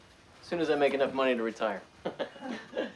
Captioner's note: laughs